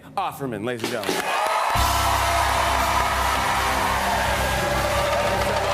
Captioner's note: cheers and applause